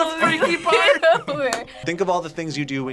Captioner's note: laughs